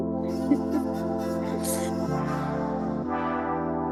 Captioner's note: chuckles; chill music